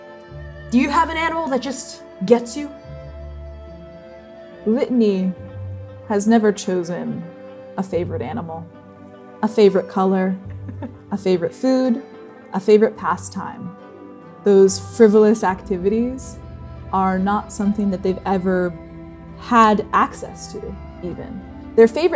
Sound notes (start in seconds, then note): 10.4 chuckling